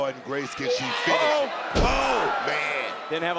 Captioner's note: body thudding